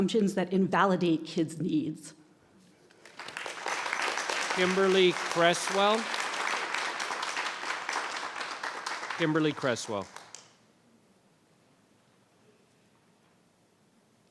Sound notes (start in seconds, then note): 3.4 audience applauds